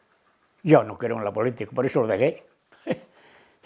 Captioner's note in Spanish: Ríe